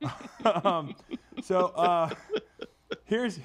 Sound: laughs

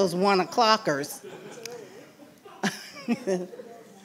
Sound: laughing

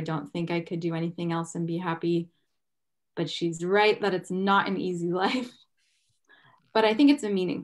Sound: chuckles

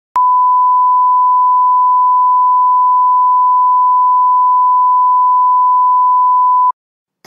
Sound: beep

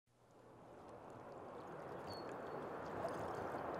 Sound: river flowing softly; birds chirping

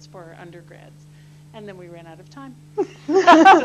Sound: laughter

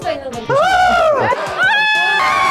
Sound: starts screaming / turned into a crow!

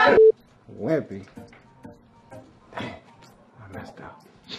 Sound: laughing

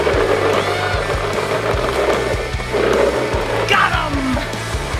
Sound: upbeat music; laughing

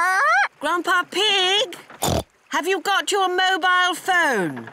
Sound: polly squawks; oinks

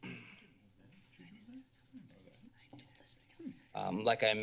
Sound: clears throat; chatting in the background

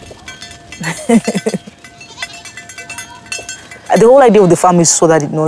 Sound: bells dinging; laughing

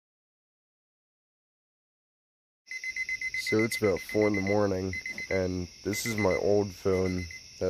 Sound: phone beeping

